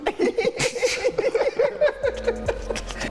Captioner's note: laughing